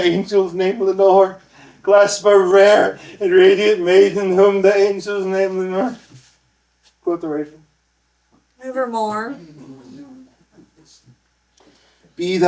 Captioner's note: laughter